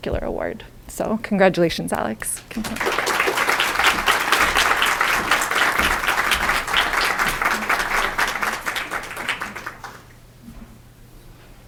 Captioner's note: applause